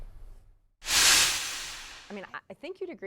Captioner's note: metal sound effect